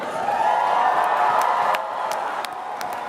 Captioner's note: applause